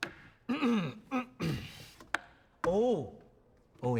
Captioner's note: clears throat